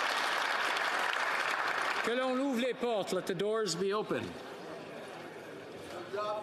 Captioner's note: applause; speaking French